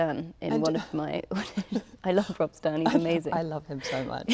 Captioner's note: laughs